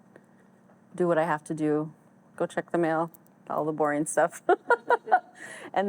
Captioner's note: laughs